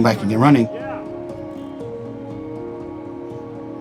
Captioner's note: group cheering